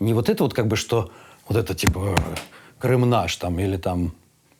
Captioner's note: knocks on chest